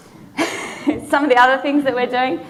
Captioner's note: laughing